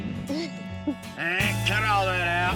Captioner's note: smooch